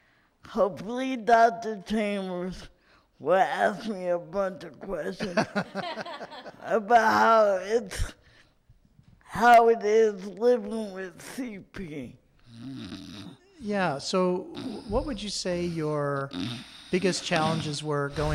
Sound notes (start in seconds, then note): 5.1 laughs